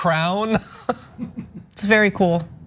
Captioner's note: laugh